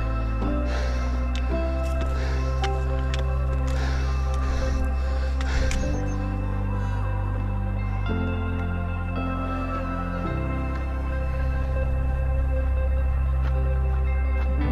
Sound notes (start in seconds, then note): 5.7 bird chirping; 11.3 footsteps crunching